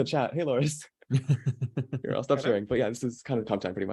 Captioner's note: laughing